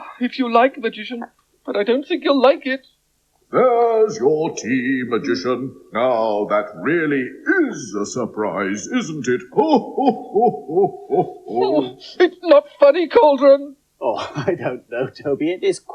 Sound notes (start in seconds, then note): 10.5 Cauldron Laughs